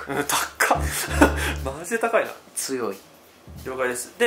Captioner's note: laughs